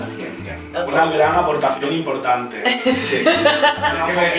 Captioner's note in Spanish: risas